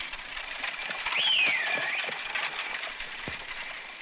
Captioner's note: whistling